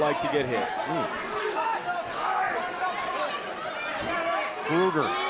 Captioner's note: crowd cheering